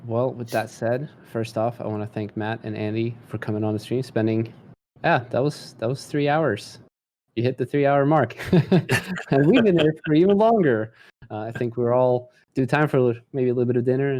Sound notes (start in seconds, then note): 8.4 chuckles